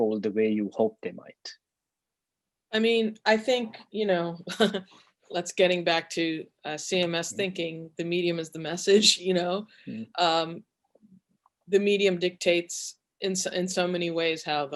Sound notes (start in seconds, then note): 4.3 chuckles